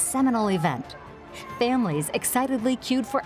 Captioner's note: people shouting